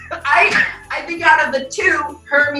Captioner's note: bells jingling